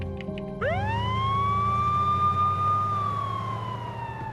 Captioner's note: siren wailing